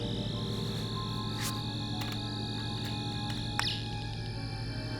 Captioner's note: whirring